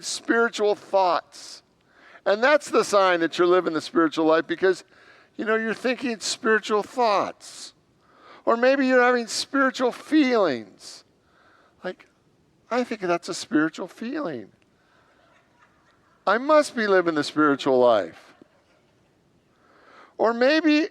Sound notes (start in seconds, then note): 18.7 congregants laugh